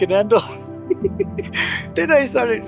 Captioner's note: laughs